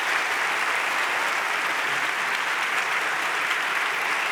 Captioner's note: audience applauds